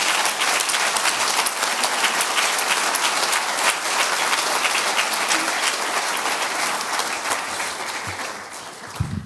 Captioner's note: audience applause